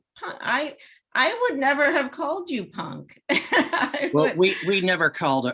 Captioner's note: laughs